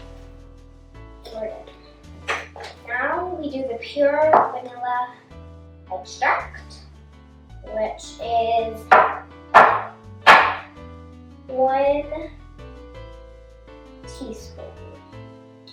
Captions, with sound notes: And now we do the pure vanilla extract which is [tap] [tap] [tap] 1 tsp.